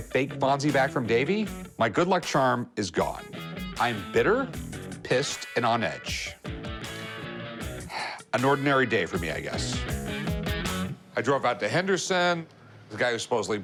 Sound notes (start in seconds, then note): 7.8 exhales